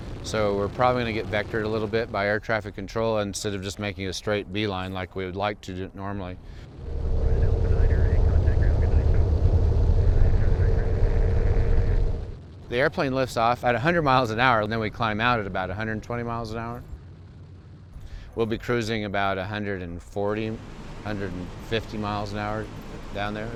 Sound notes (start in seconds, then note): 6.9 engines rumbling